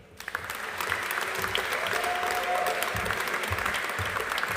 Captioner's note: audience applauding